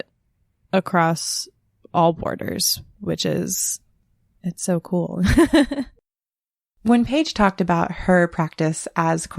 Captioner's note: laughs